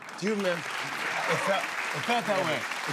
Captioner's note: cheers and applause